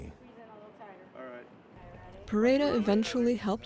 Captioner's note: chattering